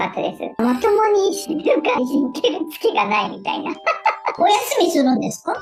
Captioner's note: laughs